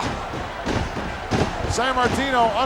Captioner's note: feet thudding